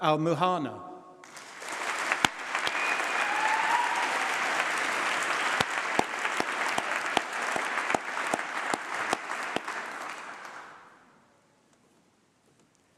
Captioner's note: applause